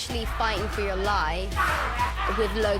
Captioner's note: yelling